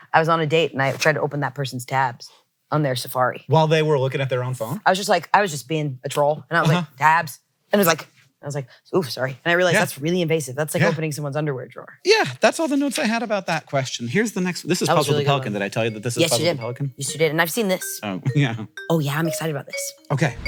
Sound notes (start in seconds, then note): 18.3 chuckles